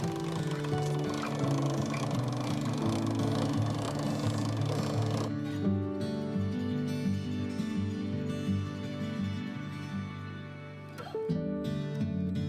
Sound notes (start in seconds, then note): 0.0 pasta machine grinding; 0.0 gentle music; 11.0 gentle music continues